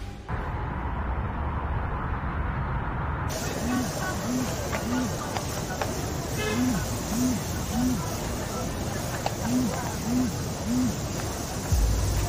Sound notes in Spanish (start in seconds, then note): 3.4 Vibra el celular